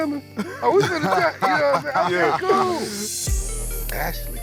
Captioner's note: laughter